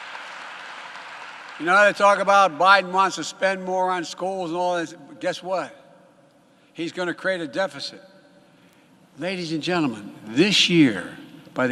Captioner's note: applause